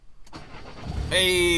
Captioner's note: engine goes brum